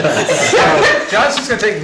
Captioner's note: all laughing